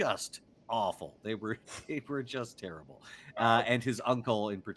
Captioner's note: chuckles